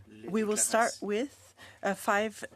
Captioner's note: speaking French